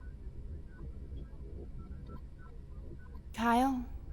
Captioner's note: machines beeping